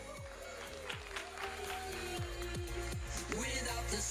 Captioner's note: audience applauding; electronic dance music